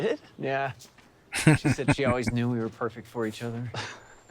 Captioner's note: laughing